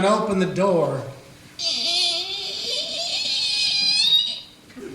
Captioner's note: creaking